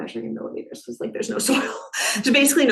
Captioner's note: chuckles